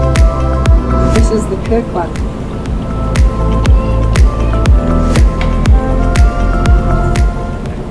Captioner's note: chirk